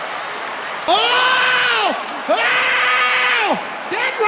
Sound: screaming

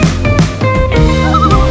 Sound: loon calls

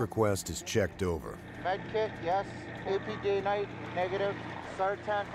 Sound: voiceover

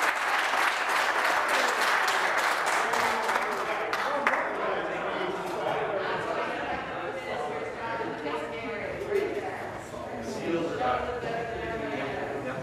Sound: some Applause

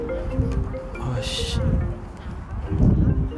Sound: telephone ring

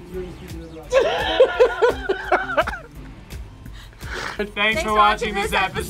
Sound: laughs

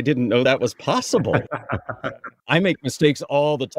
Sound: laugh

